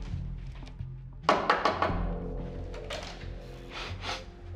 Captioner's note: police knocking